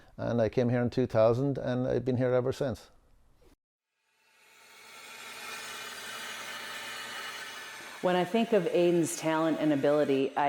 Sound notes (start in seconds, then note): 4.2 glass cutting machine grinding glass